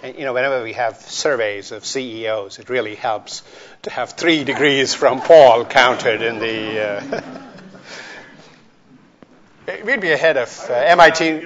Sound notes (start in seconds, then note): 8.0 chuckles